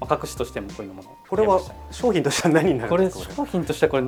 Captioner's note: laughs